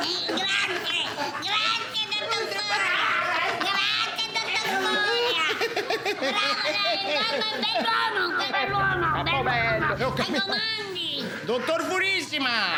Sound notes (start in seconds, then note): 8.1 all laughing